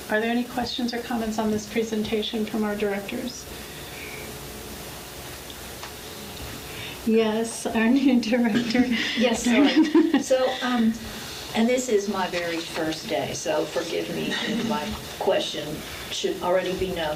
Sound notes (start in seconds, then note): 8.5 laughing